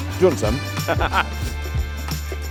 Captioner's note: laughs